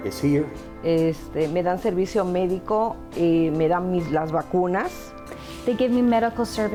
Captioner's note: speaking in Spanish